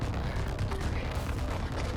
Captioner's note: whispers